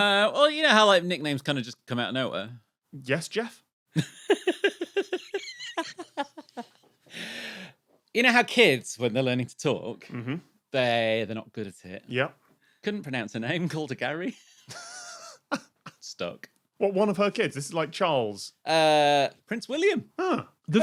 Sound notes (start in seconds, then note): 4.0 giggles profusely; 14.4 giggles softly